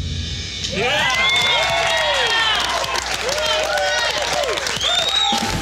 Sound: applause

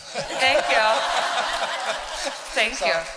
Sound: laughter

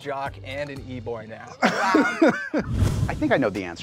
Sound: host laughing

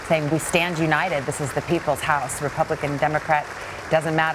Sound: applause

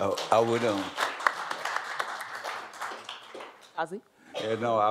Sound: applause

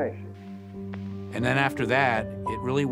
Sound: static crackling

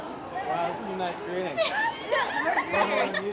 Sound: laughter

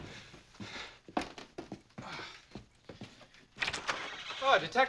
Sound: <i> banging continues</i>

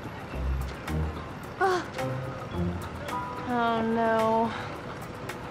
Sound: gasps

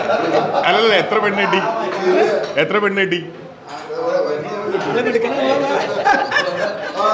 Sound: laughs

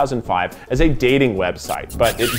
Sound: lips smacking

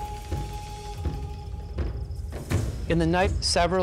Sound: crickets chirping

